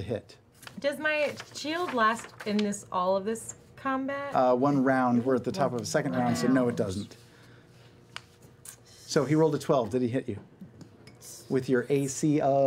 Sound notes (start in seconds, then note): none